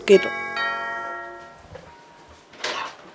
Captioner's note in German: Türklingel